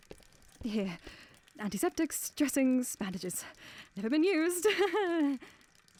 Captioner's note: weak chuckle